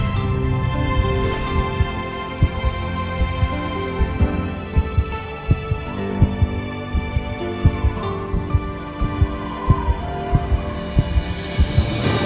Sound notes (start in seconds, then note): 0.1 heartbeat thumping; 0.1 low whooshing; 3.7 soft music; 4.6 heartbeat thumping faster